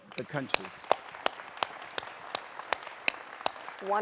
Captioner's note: applause